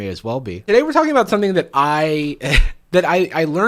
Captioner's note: laughs